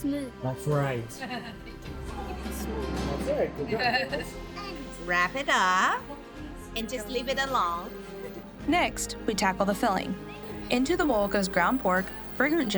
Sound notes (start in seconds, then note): 3.8 laughter